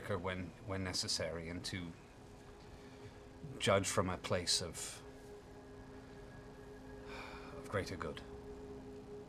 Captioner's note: sighs